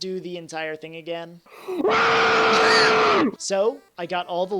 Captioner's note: inhale